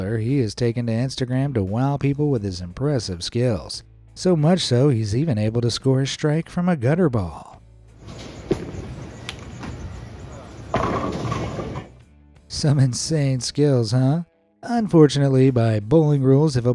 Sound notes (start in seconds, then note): 8.0 ball thuds; 10.8 pins clattering